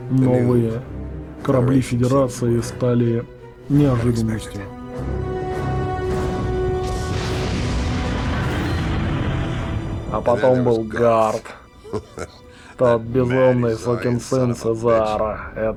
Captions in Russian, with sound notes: Новые корабли Федерации стали неожиданностью. А потом был Гарт. [Смеётся] Тот безумный сукин сын с Изара.